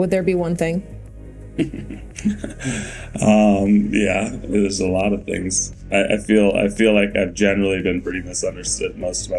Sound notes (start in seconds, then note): 1.5 Bode chuckling; 1.7 ambient music